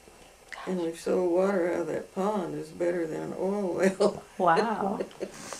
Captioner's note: laughs